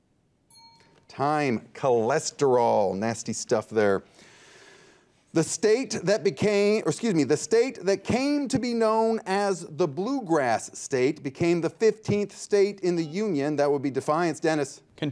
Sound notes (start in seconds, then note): 0.5 bell dings; 13.0 buzzer beeps